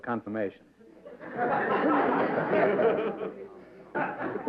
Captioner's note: laughter